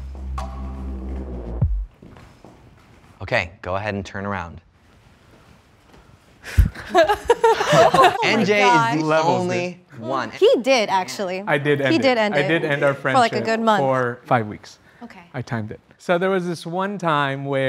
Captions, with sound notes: (plunky music notes) Okay, go ahead and turn around. (laughing) NJ is the only one. - He did actually. - I did end it. - He did end it. - I did end our friendship- - For like a good month. - For five weeks, I timed it. So there was this one time